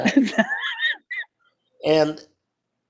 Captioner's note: laughs